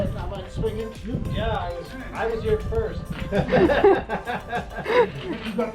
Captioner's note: laughing